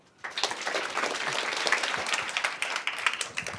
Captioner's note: applause